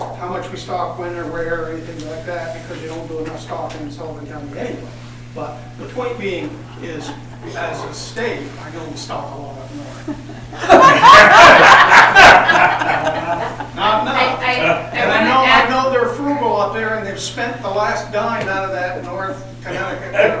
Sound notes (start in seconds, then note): 15.6 laughter